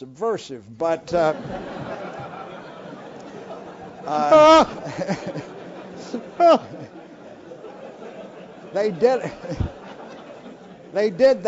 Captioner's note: laugh